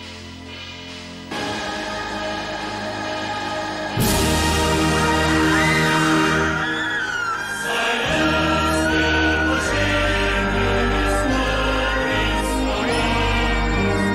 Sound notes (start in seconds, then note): 1.4 intense music; 5.3 vampires screaming